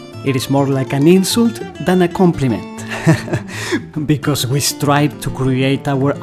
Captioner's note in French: rires